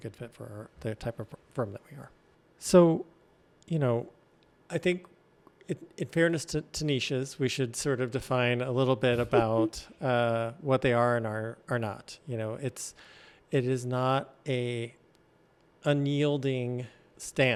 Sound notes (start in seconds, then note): 9.1 laughs